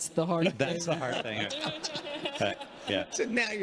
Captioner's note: congregation laughing